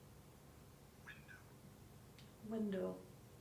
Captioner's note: faint male voice speaking